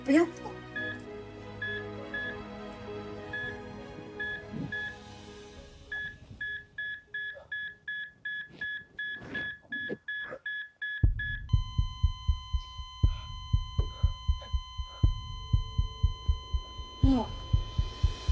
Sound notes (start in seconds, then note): 0.5 machine beeping; 1.7 reflective music; 4.9 machine beeping fast; 10.8 beeping flatlines; 11.1 dramatic music